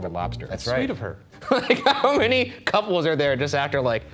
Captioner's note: laughing